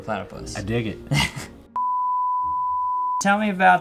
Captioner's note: high pitched tone beeping